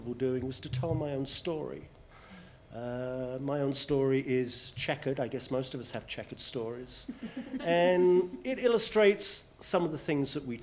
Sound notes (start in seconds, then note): 7.0 laughter